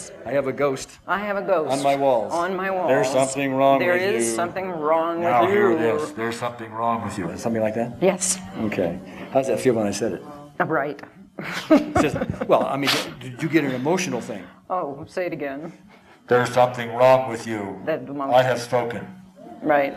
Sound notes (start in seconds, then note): 11.3 laughs